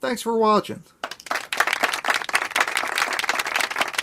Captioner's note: hand claps